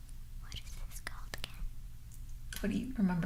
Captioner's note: whispering